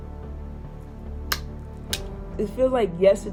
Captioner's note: lips smack